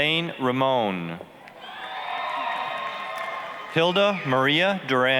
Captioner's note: applause, cheering